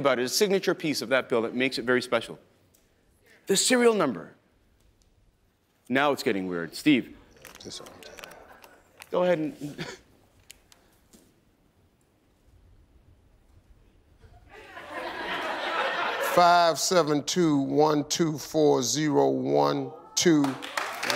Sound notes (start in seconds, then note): 7.3 paper crinkling; 14.5 audience laughing; 20.2 audience clapping